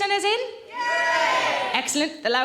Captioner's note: crowd